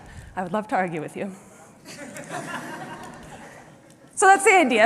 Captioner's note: laughter